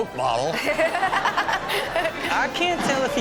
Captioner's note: Chanel and audience laughing